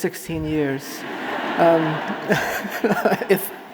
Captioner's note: audience laughing